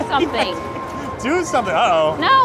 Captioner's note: chuckles